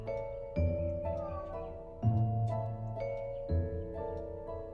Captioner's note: cat mews